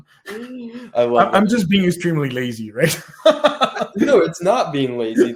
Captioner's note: laughs